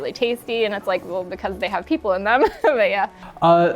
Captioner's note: laughs